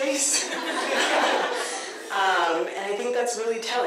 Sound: audience laughter

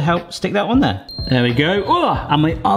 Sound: oven beeping

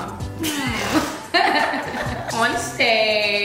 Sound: laughing

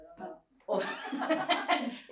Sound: laughter

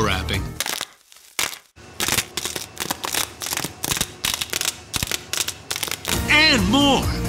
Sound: popping sounds

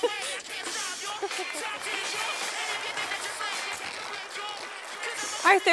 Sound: applause from the audience

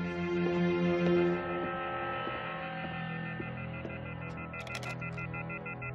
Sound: phone beeping

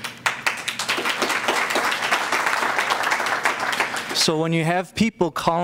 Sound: applause

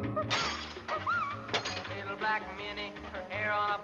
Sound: glass shattering

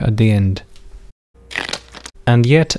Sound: click

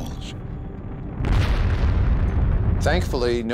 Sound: sound of explosion

